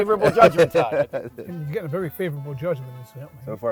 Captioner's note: laughing